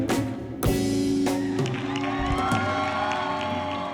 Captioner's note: applause